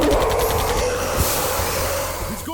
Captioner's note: steam hisses